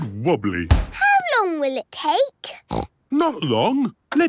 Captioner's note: snorts